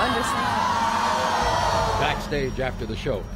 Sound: audience boos

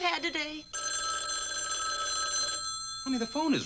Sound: phone rings

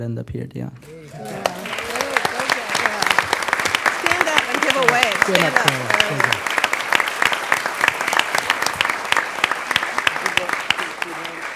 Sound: applause

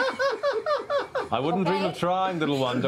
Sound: laughter

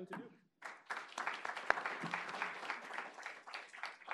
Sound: applause

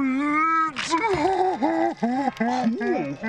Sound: crying

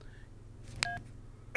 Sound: hanging up beep

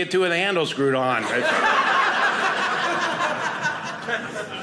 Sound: audience laughing

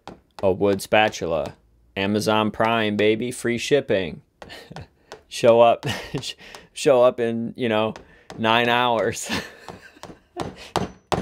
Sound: laughs

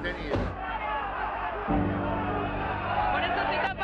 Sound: crowd shouts

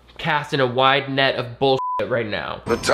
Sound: beep

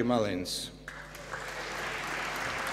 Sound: applause

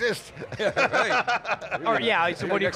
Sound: laughing

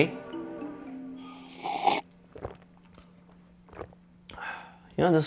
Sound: gulping sound

